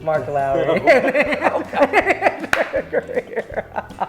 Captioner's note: laughing